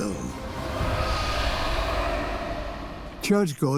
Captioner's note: dragon screeches